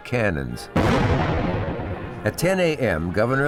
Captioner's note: cannon firing